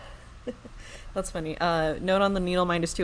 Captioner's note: laughs